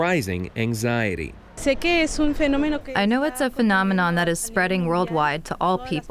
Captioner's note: through translator